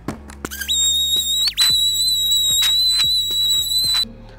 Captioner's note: machine squealing